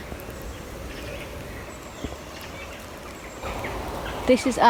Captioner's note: birds chirping